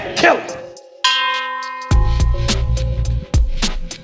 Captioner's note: bell ringing; intense music